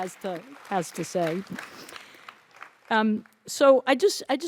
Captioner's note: audience applauds